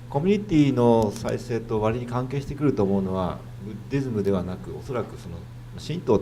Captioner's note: speaking foreign language